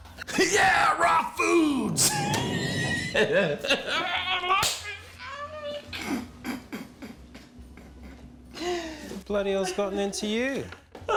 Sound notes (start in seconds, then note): 1.9 laughs